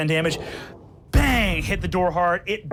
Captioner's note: door bangs